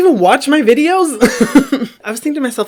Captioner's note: laughs